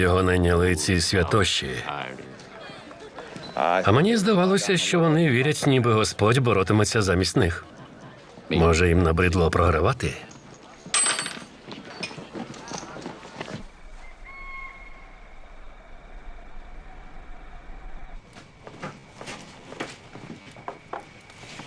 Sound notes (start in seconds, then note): 10.9 coin clatters on bar; 14.3 crickets chirping